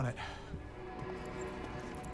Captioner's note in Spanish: Suspiros